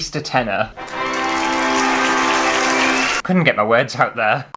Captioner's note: applause